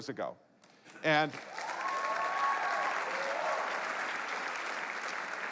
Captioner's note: applause